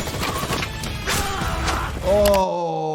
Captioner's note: characters grunting